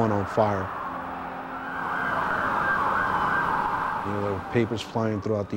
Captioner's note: sirens